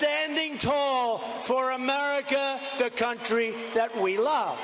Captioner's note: cheers and applause